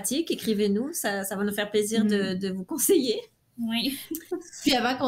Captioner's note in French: rires